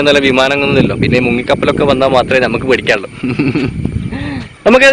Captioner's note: laughing